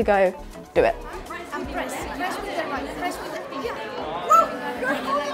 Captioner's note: general hubbub, delighted sounds